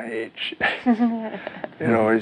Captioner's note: chuckles